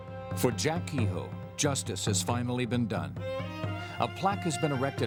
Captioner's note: voiceover